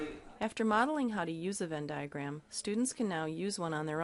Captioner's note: voiceover